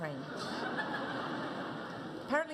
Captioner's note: audience laughs